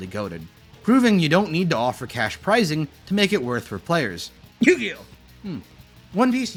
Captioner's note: cough